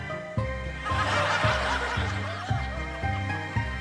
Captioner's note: laughter